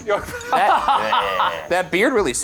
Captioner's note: all laugh